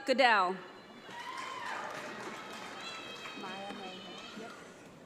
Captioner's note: audience applauds